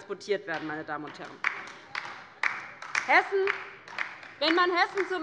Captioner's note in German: Beifall bei der LINKEN